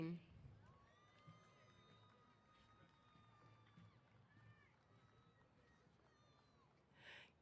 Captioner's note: cheers